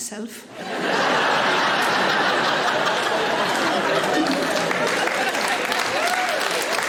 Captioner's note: audience laughing; audience applauds